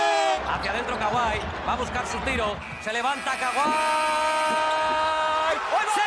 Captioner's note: speaking foreign language